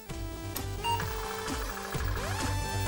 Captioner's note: beep